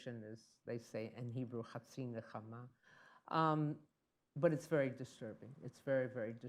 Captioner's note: speaks in Hebrew